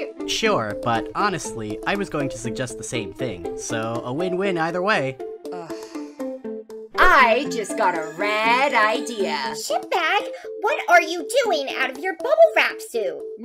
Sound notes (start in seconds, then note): 5.3 Hailstone groans